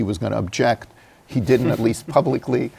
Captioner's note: laughs